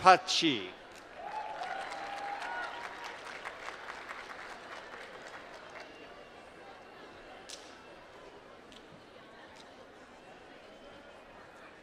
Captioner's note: applause